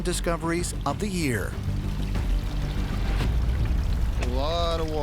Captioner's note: water flowing